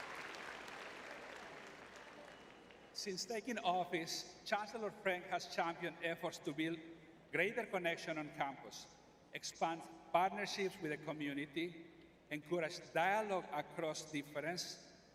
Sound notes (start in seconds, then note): 0.0 applause